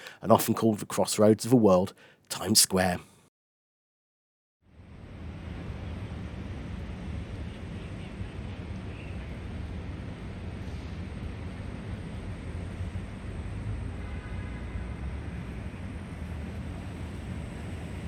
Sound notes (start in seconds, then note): 5.9 Sounds of Traffic on Times Square